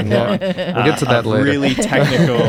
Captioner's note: laughter